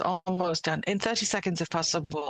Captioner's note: speaking French